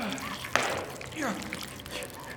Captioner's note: gun shot